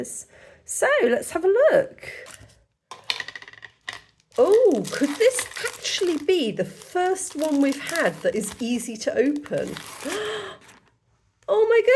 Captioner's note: gasp